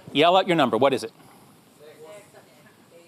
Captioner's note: audience murmers